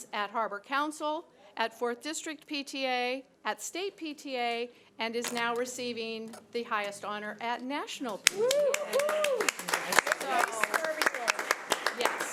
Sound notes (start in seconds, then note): 8.2 audience clapping; 8.3 audience cheering